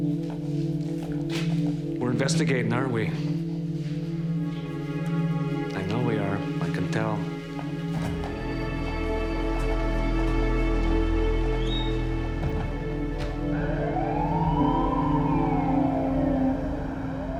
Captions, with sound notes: - We're investigating, aren't we? I know we are. I can tell. (sirens wailing)